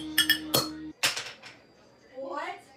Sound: glass clings; glass pops

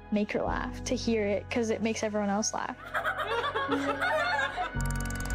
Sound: laughter

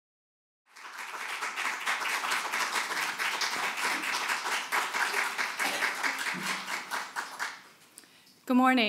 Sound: clapping

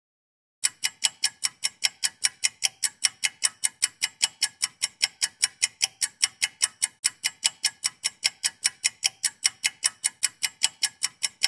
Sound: clock ticking

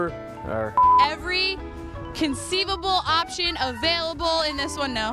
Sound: electronic beep

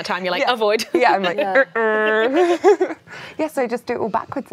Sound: laughs

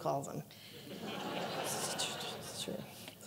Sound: audience laughing

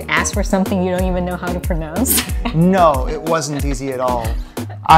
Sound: laughing

